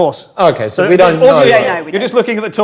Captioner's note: overlapping chattering